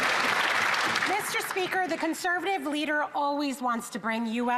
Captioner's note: some Applause